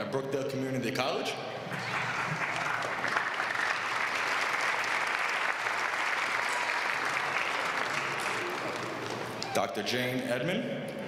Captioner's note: applause